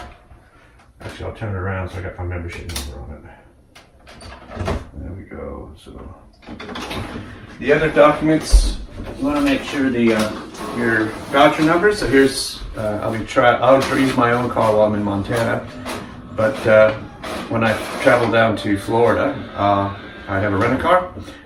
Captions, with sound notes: Actually I'll turn it around so I've got my membership number on it. There we go. (photocopier whirs) The other documents, you wanna make sure your voucher numbers. I'll use my own car while I'm in Montana but when I travel down to Florida I have a rented car